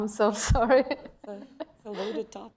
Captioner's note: laughter